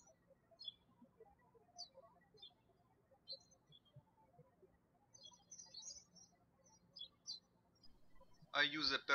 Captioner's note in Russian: птички щебечут